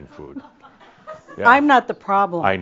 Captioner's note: a few chuckles